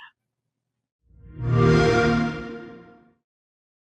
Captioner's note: xbox one startup sound